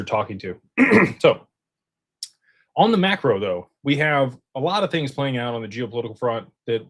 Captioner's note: clears throat